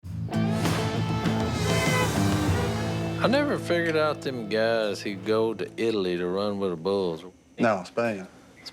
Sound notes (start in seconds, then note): 0.2 upbeat music; 1.1 car honks